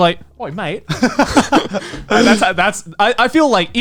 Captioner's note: laughs